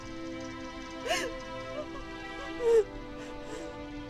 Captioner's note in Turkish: Ağlama sesi